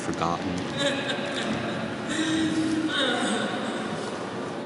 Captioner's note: wailing